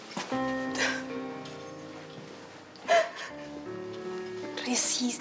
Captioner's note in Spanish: Sollozos